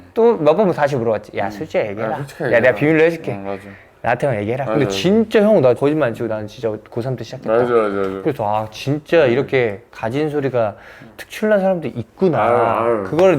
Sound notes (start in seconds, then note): 1.4 Black cat's whisper